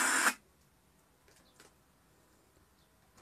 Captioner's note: static stops